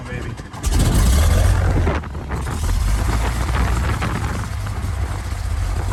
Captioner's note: airplane engine starts